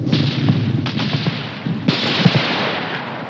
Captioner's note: machine gun fires